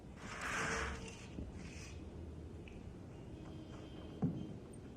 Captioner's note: curtains rattle